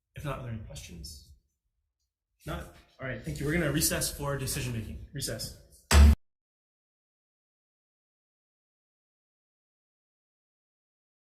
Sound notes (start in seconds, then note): 5.9 gavel bangs; 6.9 silence